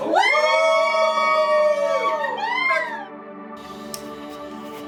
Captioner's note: family screams and celebrates